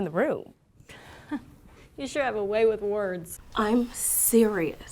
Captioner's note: laughs